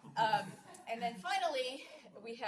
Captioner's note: laughing